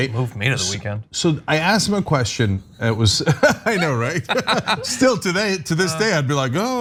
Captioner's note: laugh